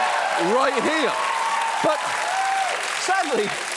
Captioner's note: audience cheers, applauds